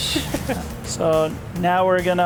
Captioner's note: laughter